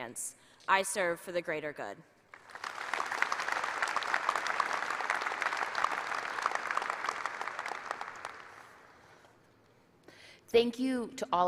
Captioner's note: applause